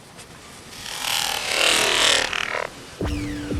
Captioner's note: vibrating noise